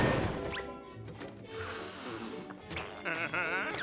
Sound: blowing

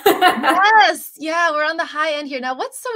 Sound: laughter

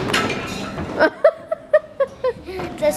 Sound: laughs

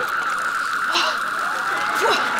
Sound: gasping

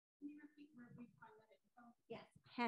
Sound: voice muffling

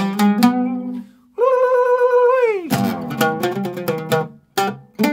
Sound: ululating

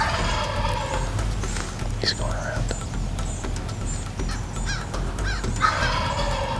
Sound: whispering

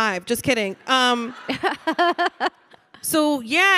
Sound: audience laughing

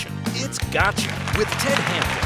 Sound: audience applauds

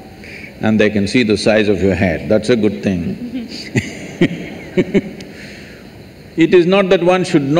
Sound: laughs/Few Laughs

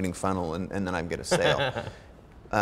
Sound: Ramit chuckling

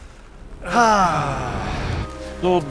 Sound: sigh in unison

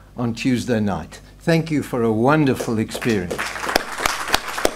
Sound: applause

